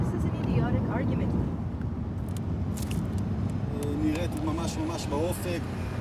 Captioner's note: man speaking Hebrew on radio